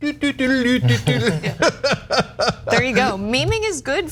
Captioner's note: laugh